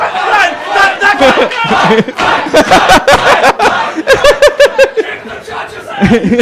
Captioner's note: chanting